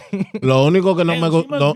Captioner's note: speaking In Foreign Language